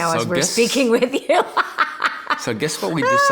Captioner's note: laughing